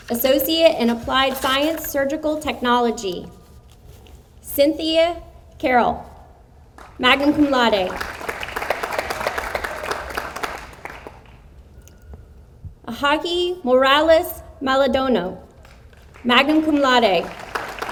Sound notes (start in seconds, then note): 7.2 audience applauds; 16.5 audience applauds